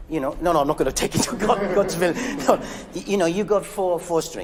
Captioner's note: musicians laughing